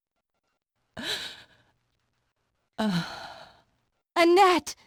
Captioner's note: sighs